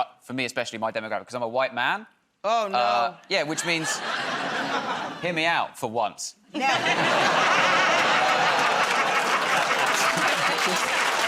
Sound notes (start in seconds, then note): 6.5 laughter; 9.9 laughter and applause